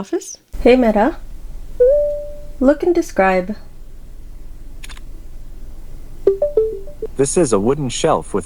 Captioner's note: camera click sound